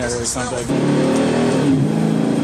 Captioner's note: engine revving